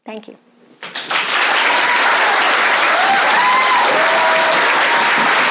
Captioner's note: applause